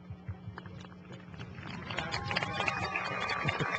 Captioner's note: applause